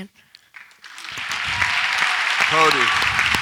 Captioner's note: audience applauds